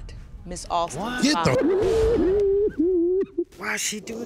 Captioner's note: sobbing